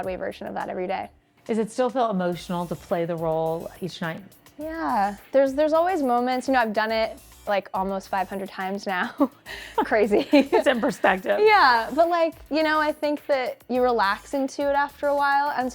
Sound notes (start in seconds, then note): 9.1 chuckles